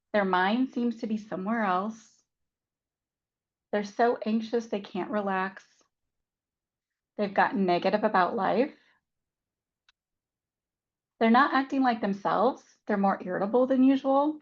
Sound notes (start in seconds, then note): none